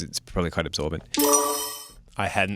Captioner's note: chiming